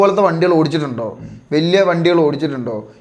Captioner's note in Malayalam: തൊണ്ട ശരിയാക്കുന്നു